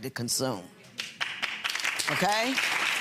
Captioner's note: audience applauds